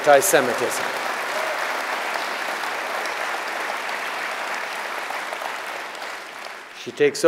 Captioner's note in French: Applaudissements